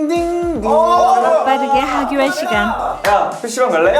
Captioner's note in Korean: 우렁차게 울리는 하교 종